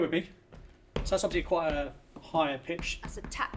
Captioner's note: stomps foot